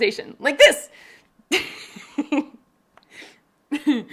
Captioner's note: laughing